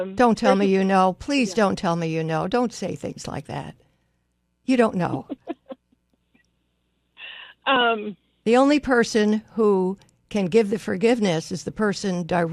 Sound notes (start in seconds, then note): 5.1 laughs